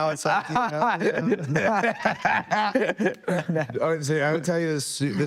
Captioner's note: people laughing